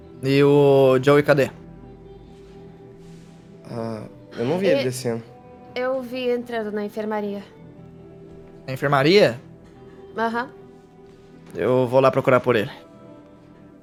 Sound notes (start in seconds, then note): none